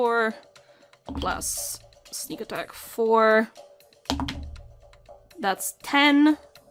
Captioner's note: dice clunks